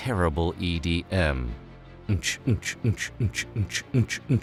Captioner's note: imitating edm beats